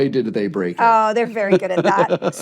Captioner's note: laughs